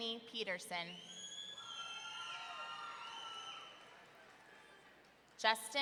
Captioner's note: audience cheering